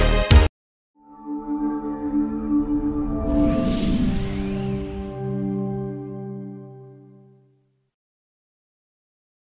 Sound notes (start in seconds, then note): 1.0 sound effects